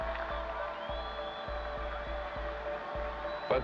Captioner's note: crowd cheering